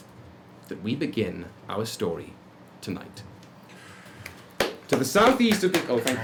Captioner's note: clapping